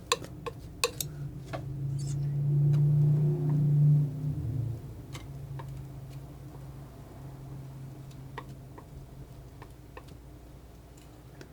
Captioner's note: scissors snipping